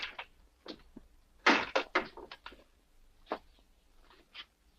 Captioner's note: door slams